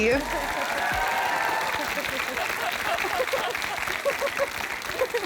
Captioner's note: applause